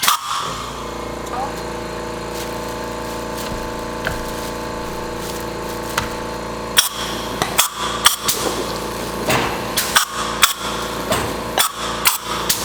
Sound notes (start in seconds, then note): 2.1 motor whirring; 7.4 machine clanking; 7.4 spraying